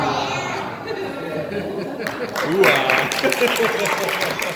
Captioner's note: applause